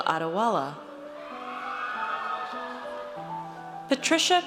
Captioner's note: audience cheers